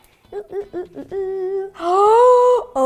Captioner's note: singsong